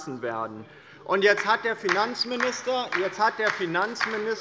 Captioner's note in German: Beifall bei der LINKEN - Zurufe von dem BÜNDNIS 90/DIE GRÜNEN